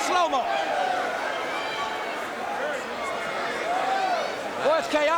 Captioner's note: crowd cheering